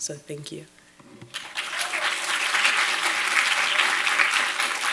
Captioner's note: audience applauds